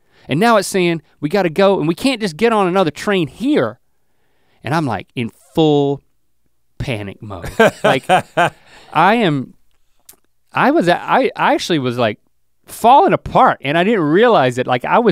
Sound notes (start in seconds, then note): 7.3 Rhett laughs